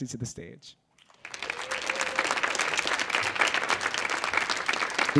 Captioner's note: audience clapping